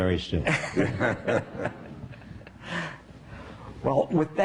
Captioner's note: laughing